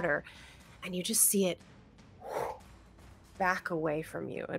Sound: huffs

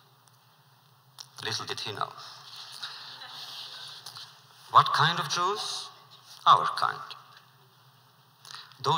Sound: laughter

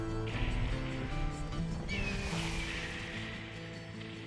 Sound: hawk screeching

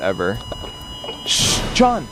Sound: beeping

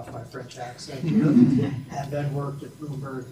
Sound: attendees chuckling

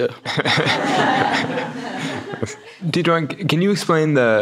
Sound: audience laughs

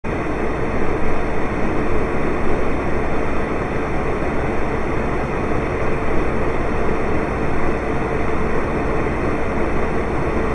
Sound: space heater sounds

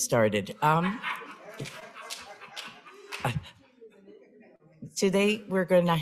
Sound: audience member laughs

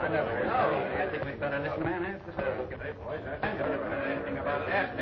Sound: concerned chatter

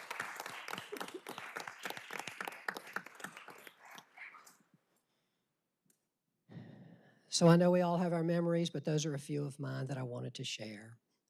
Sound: applause

